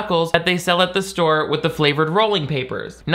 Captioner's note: none